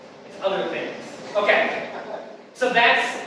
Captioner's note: audience laughing